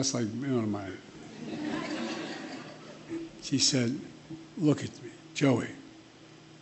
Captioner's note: laughter